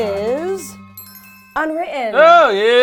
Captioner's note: suspenseful music; chimes dinging